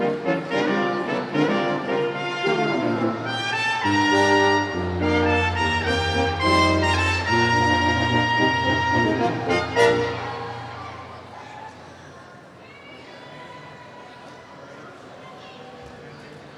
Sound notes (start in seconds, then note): 11.7 audience murmurs